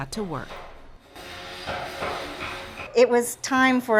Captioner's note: hammer pounding; saw buzzing